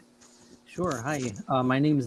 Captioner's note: clears throat